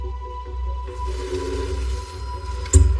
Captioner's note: door slidining